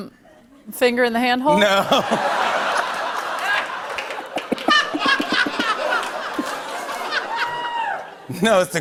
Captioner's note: laughter